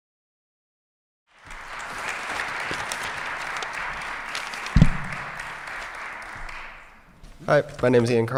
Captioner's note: applause